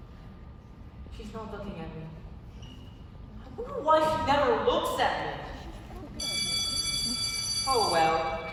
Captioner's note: the school bell rings again